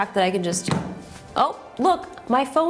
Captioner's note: phone thumps